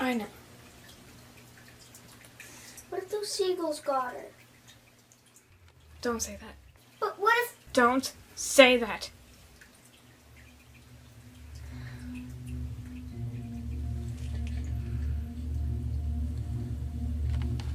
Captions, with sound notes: - I know. - What if those seagulls got her? - Don't say that. - But what if- - Don't say that. (water running) (ominous music)